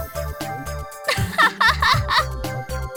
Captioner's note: laugh